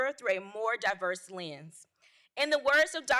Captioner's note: none